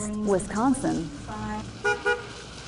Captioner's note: nat sound of horn honking